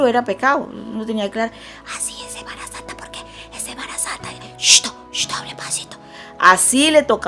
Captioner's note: whispering voice